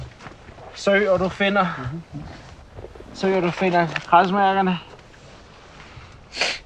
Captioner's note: in Danish